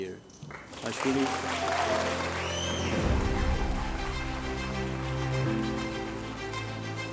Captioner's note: applause & Cheers